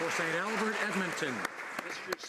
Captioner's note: applause